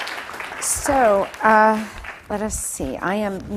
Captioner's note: applause